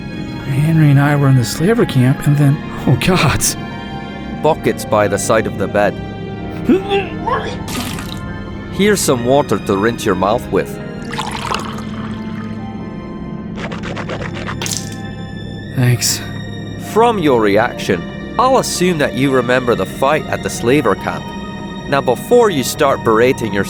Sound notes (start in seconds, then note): 6.6 Gareth vomits; 11.0 pouring water into a mug